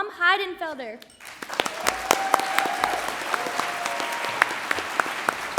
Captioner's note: audience applauds